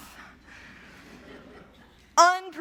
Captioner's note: laughter